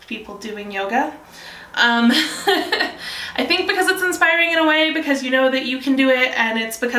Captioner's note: laughs